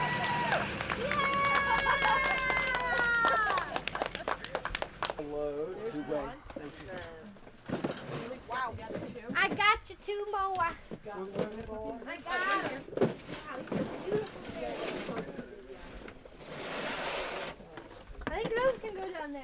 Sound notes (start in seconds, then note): 0.0 everyone claps; 5.7 small talk, boxes sliding on truck bed, clicking into place in stacks